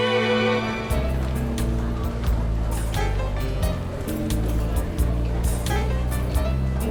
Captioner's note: lively music; people chattering